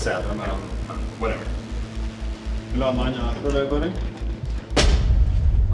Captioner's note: in English; indistinct chatter